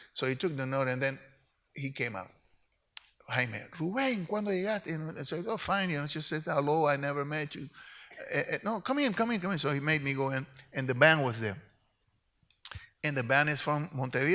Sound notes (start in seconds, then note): 3.9 speaks in Spanish